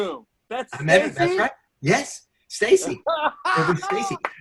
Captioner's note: laughs